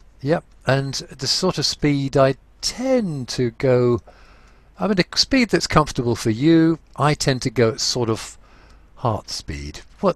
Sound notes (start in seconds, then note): none